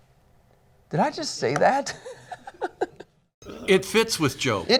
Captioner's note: laughing